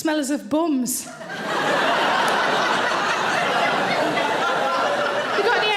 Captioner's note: audience laughing loudly